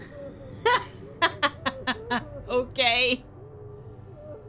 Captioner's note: laughs